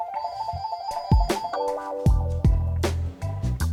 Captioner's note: phone rings